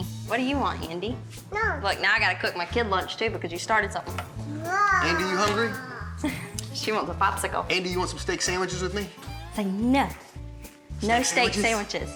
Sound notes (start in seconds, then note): 4.5 babbles